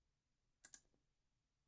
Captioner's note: click